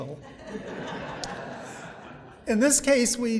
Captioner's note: audience laughing